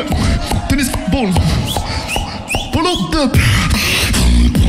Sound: someone in crowd whistling same rhythm as the ball

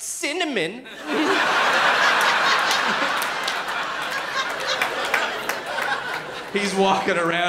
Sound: laughter

